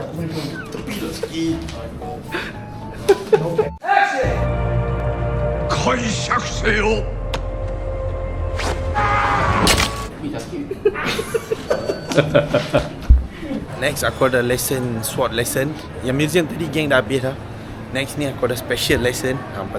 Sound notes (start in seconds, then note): 2.9 laugh; 5.8 speaking Japanese; 10.6 laugh